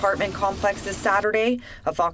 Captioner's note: rushing water nats